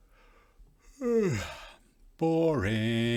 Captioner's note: yawns